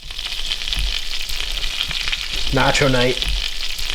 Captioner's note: butter sizzling